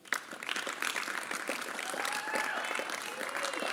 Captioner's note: applause